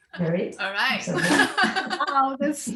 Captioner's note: both laughing